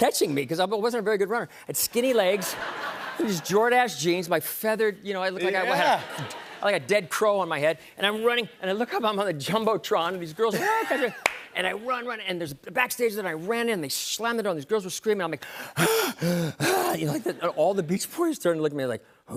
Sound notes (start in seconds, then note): 16.1 panting